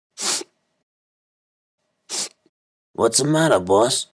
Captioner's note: sniffles